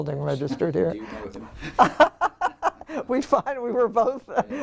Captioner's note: laugh